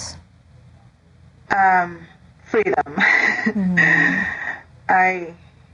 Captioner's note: laughs